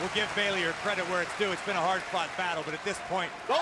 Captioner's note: crowd cheering